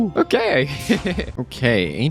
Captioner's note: laughs